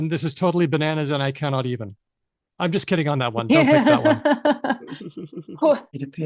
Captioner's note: laughs